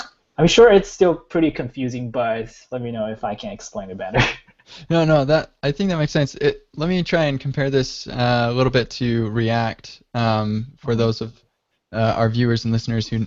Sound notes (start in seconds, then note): 4.1 laughs